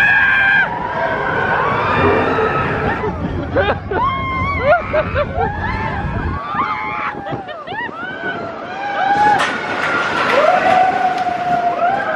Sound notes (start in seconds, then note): 0.0 screaming excitedly; 2.7 laughing; 3.9 screaming excitedly; 9.4 track rattling